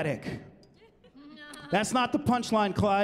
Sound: laughing

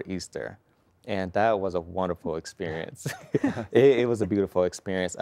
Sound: chuckling

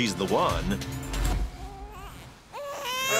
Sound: baby cries

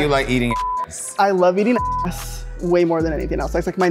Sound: beep

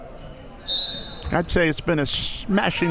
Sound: whistle

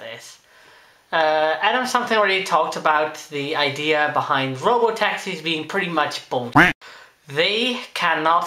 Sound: quack

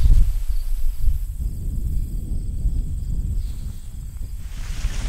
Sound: wind blowing

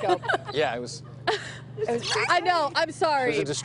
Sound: laughter

